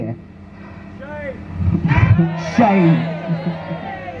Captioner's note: crowd chants